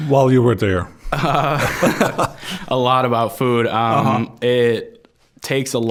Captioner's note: both laughing